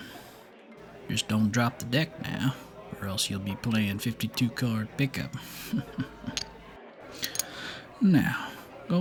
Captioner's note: chuckles